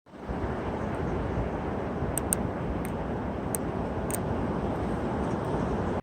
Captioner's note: wind Howling